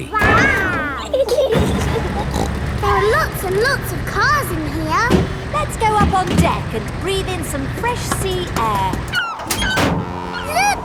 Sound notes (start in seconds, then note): 0.1 snorts; 1.7 giggling